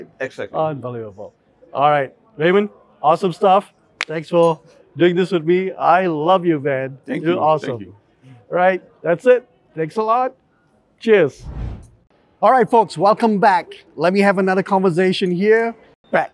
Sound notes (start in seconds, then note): 3.9 hands smacking; 11.4 air whooshing